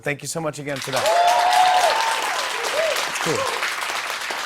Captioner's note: cheers and applause